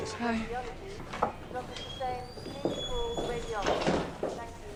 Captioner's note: woman over P.A